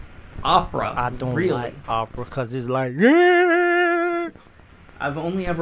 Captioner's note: yelling